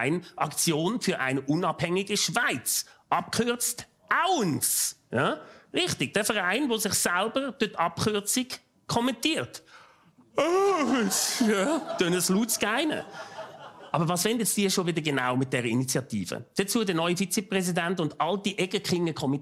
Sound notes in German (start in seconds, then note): 10.3 Gähnend